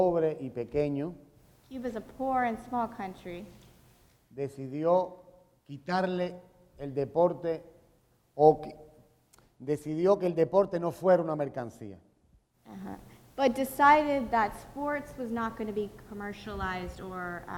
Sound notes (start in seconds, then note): 3.6 speaking in Spanish